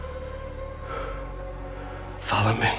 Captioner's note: panting